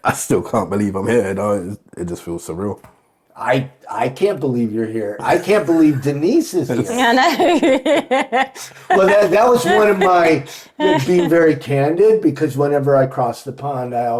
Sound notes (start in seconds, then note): 6.6 laughing